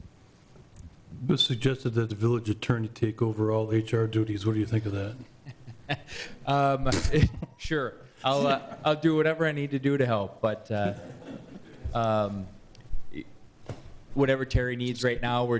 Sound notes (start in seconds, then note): 6.8 laughs; 10.8 audience laughs